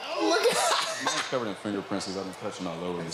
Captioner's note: laughs